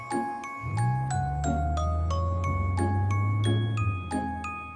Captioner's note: engine rumbling